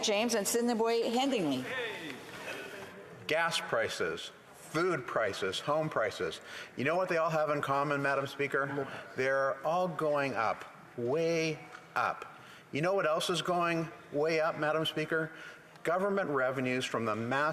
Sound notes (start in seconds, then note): none